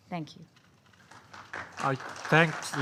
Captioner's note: applause